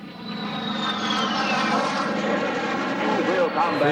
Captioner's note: jets squealing